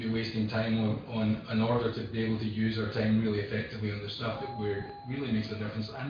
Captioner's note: audio distorts